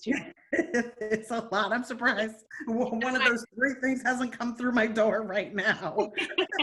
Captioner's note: laughing